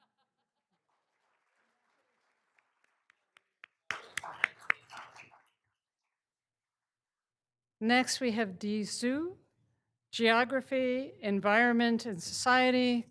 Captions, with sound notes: (all applauding) Next, we have Di Zhu, Geography, Environment, and Society,